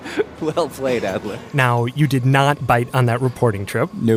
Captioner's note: laughs